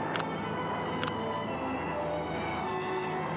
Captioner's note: motor humming